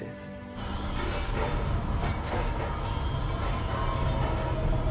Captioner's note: storm raging